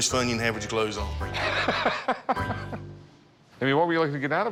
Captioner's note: laughs